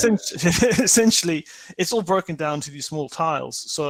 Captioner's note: laughs